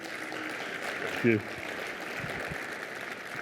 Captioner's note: applause